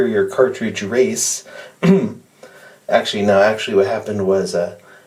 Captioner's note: ahem